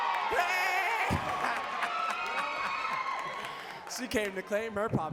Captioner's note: audience cheering and clapping